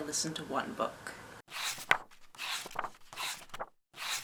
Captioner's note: pages turning